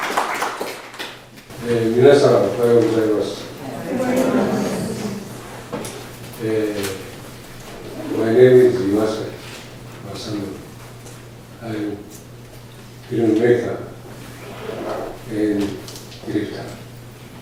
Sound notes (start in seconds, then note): 1.5 japanese